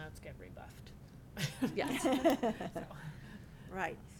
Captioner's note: laughing